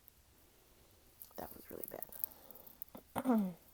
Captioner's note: clears throat